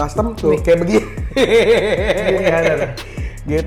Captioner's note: laugh